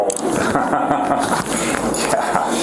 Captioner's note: laughing